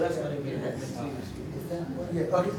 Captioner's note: audience chatters